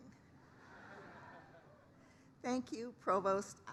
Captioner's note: laughter